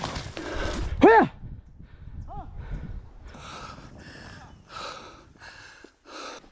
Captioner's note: hunters speaking native language